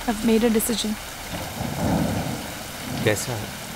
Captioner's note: Thundering